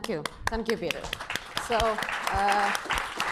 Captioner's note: applause